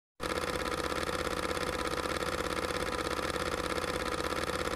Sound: film reel spinning

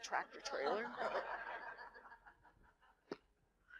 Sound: laughter

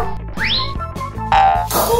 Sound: boing sounds

